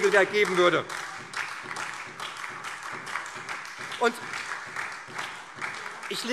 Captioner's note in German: Beifall SPD und vereinzelt DIE LINKE